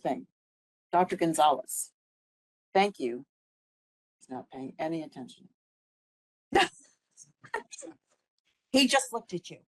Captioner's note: laughing